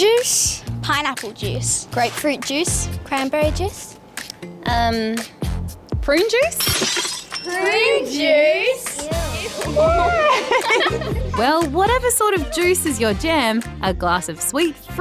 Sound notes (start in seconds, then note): 6.4 glass smashes; 9.4 all laugh